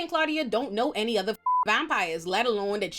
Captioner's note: beep